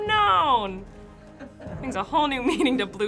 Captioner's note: Finebros snicker